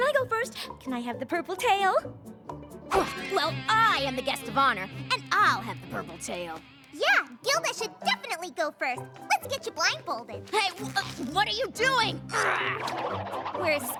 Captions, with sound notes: CAN I GO FIRST? CAN I HAVE THE PURPLE TAIL? [ GRUNTS ] WELL, I AM THE GUEST OF HONOR. AND I'LL HAVE THE PURPLE TAIL. YEAH, GILDA SHOULD DEFINITELY GO FIRST. LET'S GET YOU BLINDFOLDED. HEY, WH-WHAT ARE YOU DOING?! [ GRUNTS ]